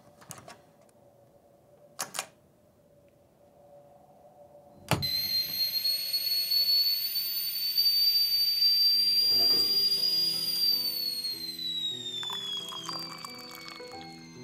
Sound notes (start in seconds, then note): 0.3 jiggles lock; 4.8 tea kettle whistling